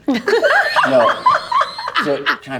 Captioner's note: everyone laughing